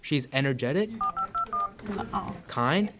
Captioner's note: phone numbers beeping